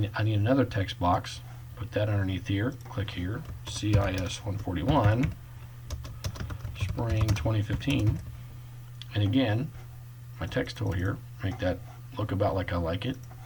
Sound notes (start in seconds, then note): 2.8 click; 3.4 typing; 5.9 typing